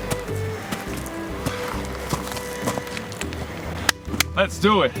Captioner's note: rocks crunching; hands clap